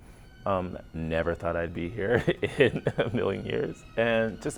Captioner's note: chuckles